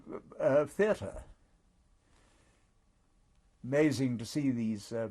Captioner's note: pauses for 3 seconds